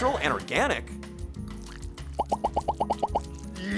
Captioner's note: popping